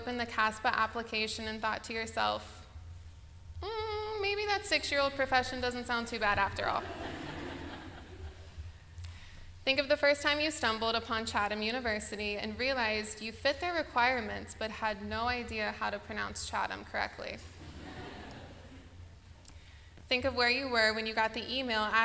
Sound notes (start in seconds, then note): 6.8 laughter; 17.6 laughter